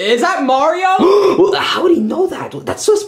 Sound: Luigi gasping

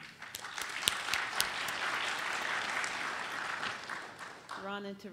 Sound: applauding

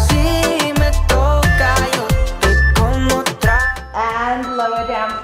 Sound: timer beeping

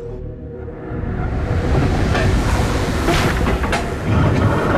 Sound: mechanism moving

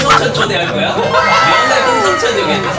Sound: laughter

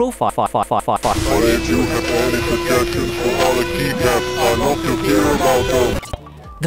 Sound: robotic demon voice

